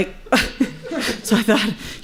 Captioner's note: chuckles